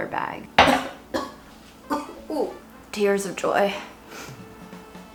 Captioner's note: coughing